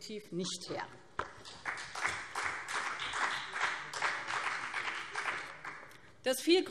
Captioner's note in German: Beifall BÜNDNIS 90/DIE GRÜNEN und CDU